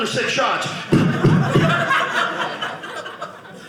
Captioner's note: audience laughing